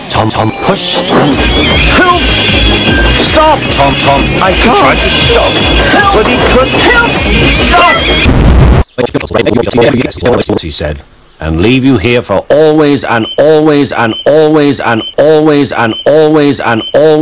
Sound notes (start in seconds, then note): 4.8 with zest in his voice